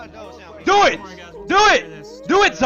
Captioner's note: yells